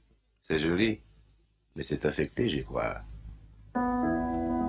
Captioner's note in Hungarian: Nicky franciául